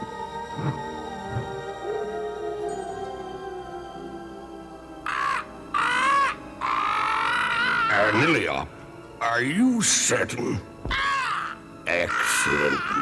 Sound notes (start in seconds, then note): 0.0 wolves howling; 3.9 squawking; 10.9 squawking